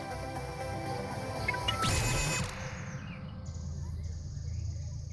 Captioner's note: login chime; digital noises